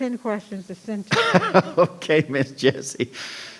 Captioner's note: laughs